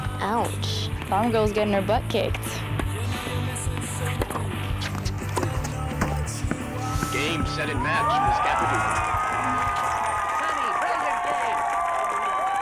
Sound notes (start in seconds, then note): 9.0 cheering